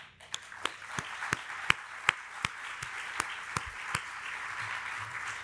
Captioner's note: applauds; audience applauding